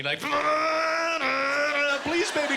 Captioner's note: imitating car engine revving